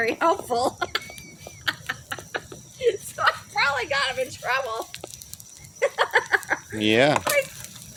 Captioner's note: laughing